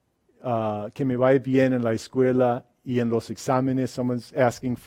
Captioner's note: speaks in a foreign language